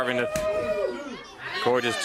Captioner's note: crowd chatter